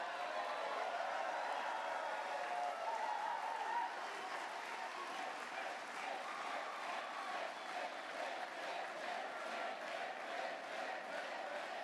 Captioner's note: cheers/chants